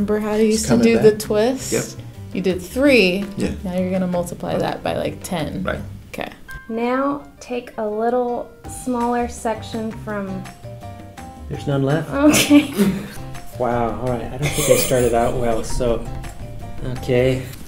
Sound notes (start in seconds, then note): 12.3 laughs; 14.4 laughs